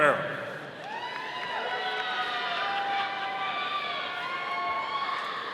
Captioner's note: audience cheering